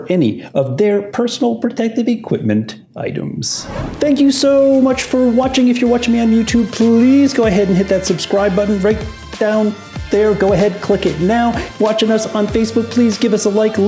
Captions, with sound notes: any of their personal protective equipment items. (whooshing) (funky hiphop music) Thank you so much for watching! If you're watching me on YouTube, please go ahead and hit that subscribe button right down there! Go ahead, click it now! Watchin' us on Facebook, please give us a like,